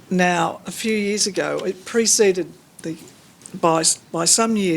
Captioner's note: none